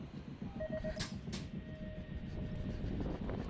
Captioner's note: beeping